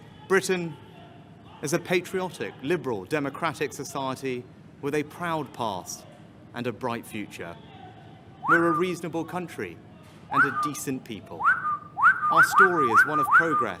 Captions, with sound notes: Britain is a patriotic, liberal, democratic society with a proud past and a bright future. (Whistle) We're a reasonable country- (Overlaying whistle sounds) (angry crowd noise)